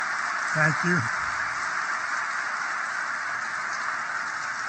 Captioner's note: applause